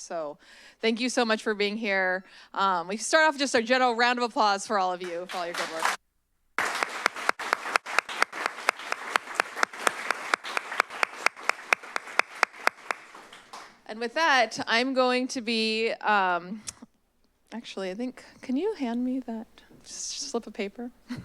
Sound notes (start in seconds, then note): 6.6 applause